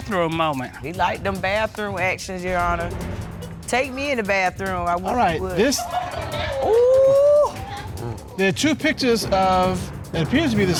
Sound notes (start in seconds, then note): 5.7 audience chuckle; 7.3 exclaims